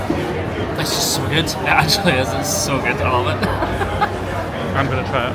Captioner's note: laughs